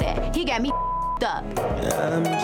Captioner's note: beep